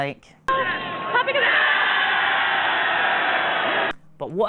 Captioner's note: crowd cheering